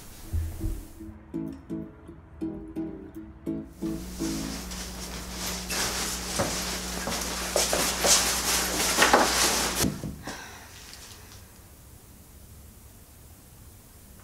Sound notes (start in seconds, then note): 5.8 footsteps walking in